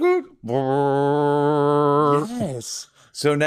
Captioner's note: imitates boinking